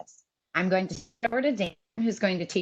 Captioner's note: audio is choppy